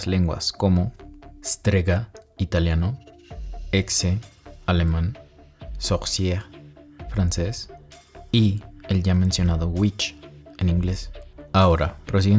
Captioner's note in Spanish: francés